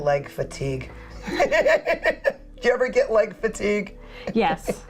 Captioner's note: laughs